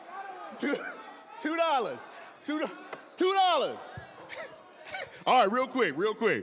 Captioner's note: laughing